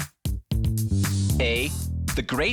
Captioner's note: air whooshing